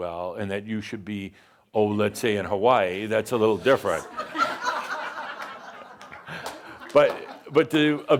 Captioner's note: laughter